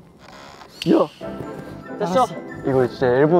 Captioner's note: exclamations of amazement